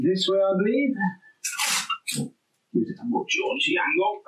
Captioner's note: tape ripping